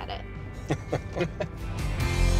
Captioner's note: laughing